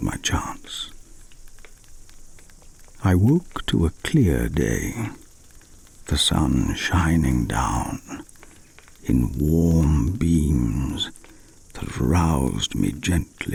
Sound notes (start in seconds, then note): 1.0 fire crackling and night insect buzzing